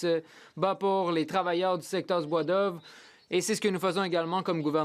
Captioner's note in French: voix de l'interprète